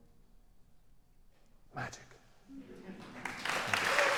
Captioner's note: whispers; applause